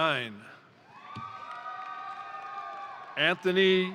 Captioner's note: crowd cheering; crowd applauding